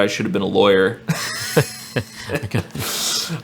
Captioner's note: laughing